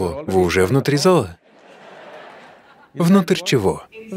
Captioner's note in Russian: Смех